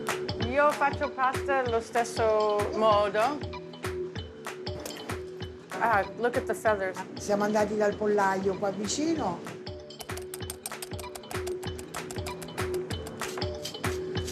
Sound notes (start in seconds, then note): 0.1 speaking Italian; 6.6 speaking Italian